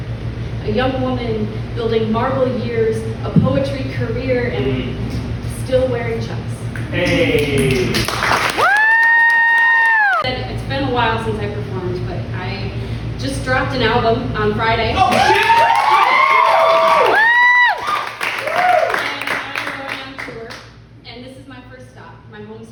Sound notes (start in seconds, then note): 6.9 poetry sounds & cheers; 14.9 cheers